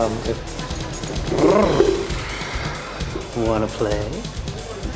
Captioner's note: growls